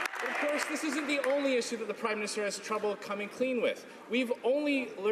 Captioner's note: some Applause